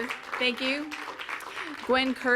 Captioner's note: audience applauds